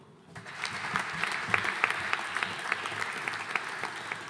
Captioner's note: audience applauding